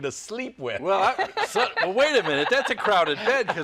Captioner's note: laughter